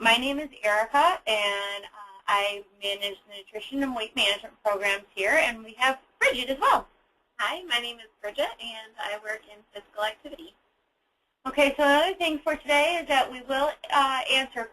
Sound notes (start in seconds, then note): none